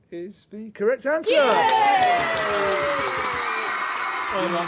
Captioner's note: applause